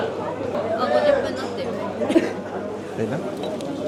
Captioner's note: speaking Japanese